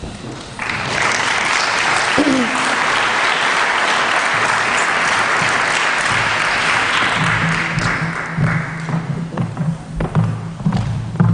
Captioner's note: applause